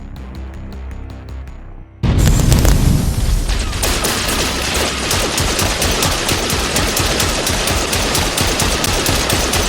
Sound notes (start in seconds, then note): 2.0 explosion booms; 2.1 guns blasting